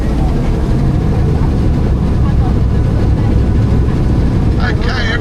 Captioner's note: plane engine roaring